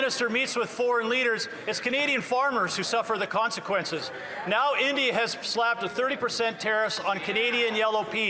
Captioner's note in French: voix de l'interprète